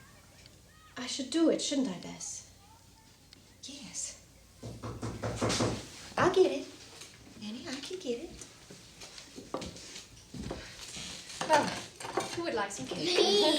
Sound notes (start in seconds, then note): 4.6 Lydia knocking